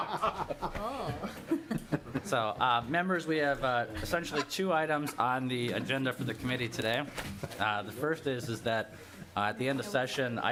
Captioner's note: laughter